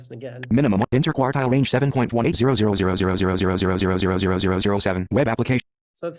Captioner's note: voiceover